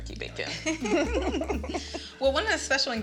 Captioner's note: both laughing